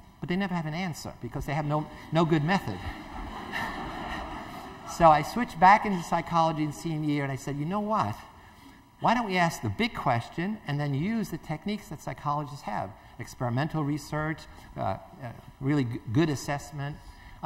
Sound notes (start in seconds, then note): 2.2 Zimbardo laughs; 2.6 laughter